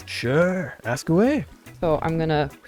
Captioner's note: none